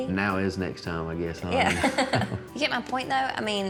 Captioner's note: laughs